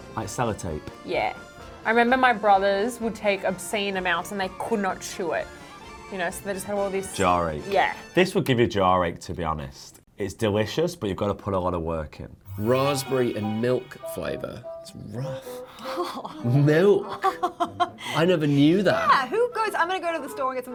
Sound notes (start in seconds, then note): 15.7 laughing